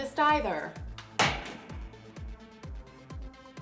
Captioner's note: book falling on ground